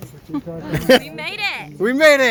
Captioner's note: laughs